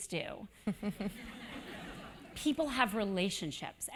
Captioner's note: laugh